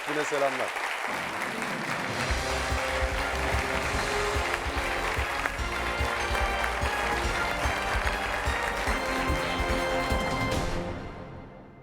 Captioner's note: applause